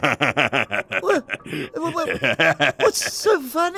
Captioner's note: worrying laughter